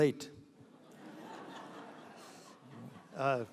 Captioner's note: laughing